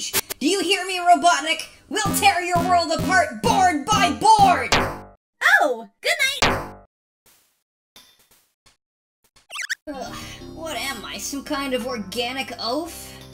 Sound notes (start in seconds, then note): 4.7 bonk; 6.4 bonk